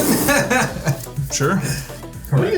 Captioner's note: player blows raspberry